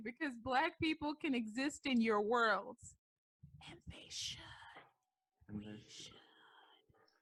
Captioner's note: whispers